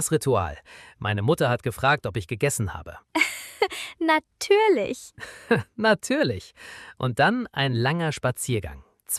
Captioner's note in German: gelächter